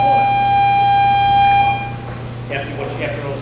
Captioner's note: bell blares